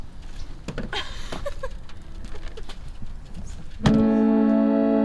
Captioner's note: laughs; monotone piano music